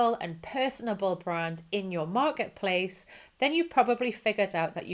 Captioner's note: none